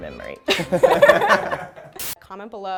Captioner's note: laughing